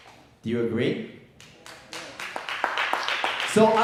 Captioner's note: audience claps